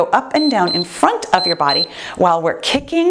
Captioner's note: timer beeps